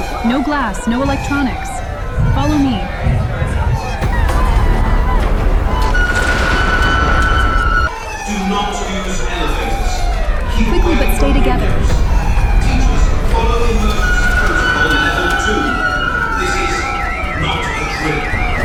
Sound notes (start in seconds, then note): 4.0 people crying as the electromagnetic pulse hits; 12.5 announcement echoes as people rush past; 18.4 sirens blaring